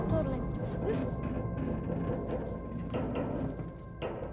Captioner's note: ship creaking